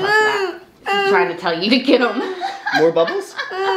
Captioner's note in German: lacht